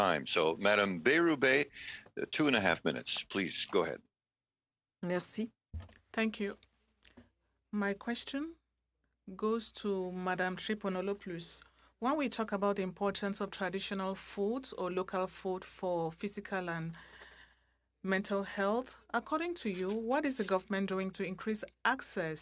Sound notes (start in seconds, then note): 12.9 speaking french